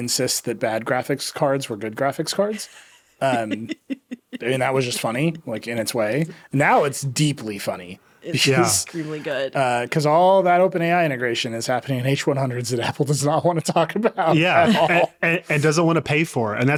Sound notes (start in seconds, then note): 3.2 laughing